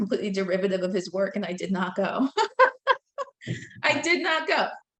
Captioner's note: laughing